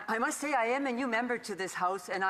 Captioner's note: speaking French